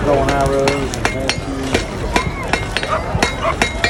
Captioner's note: hammering